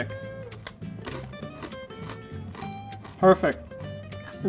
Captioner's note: breadstick crunching